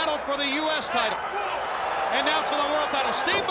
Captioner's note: crowd cheering